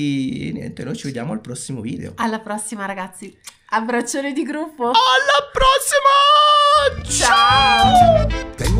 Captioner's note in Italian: urlo